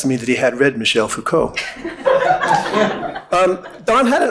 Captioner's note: audience laughing